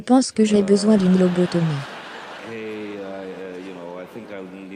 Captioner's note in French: L'audience rit